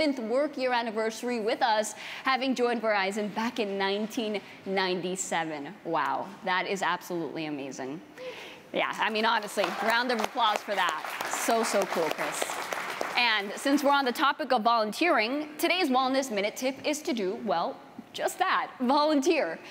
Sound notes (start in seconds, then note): 13.9 applause